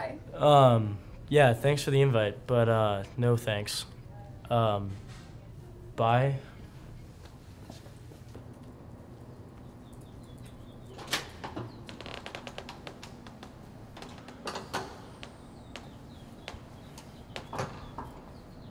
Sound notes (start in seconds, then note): 10.5 door creaks open and close